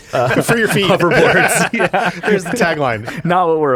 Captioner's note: laughs